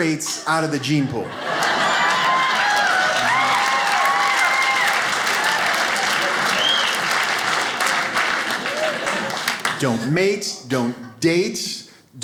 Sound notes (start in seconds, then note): 1.4 audience applauding